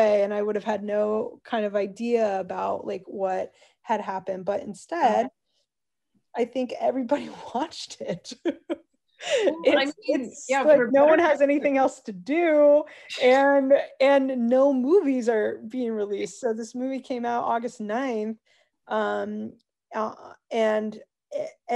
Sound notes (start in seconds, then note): 8.0 laughs